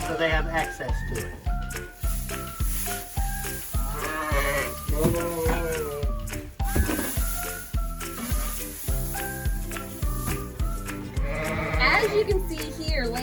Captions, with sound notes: so they have access to it. (sheep bleating) (hay rustling) - As you can see here,